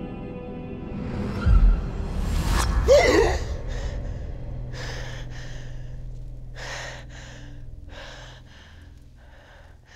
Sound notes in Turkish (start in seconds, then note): 2.9 Korkarak nefes verdi